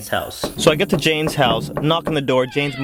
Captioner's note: knocking